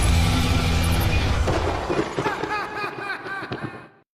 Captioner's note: lightning strikes; laughs